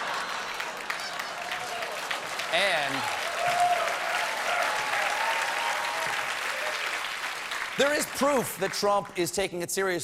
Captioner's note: applause; laughter